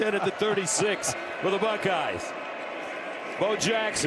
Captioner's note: laughter